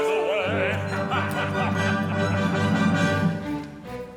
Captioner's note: laughs